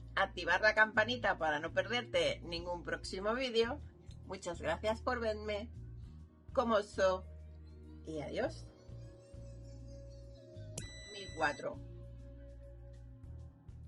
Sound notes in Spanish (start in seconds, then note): 10.8 sonido: piiiiii